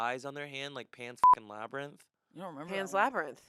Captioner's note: beep